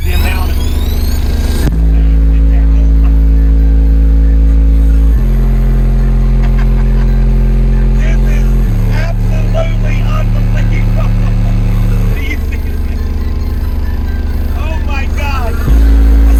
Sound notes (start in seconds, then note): 0.1 loud bass music; 6.8 laughing